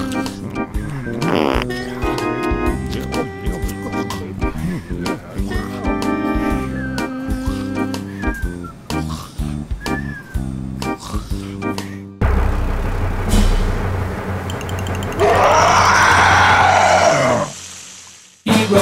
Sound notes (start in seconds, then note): 0.4 fart